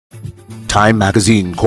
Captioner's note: radio Announcer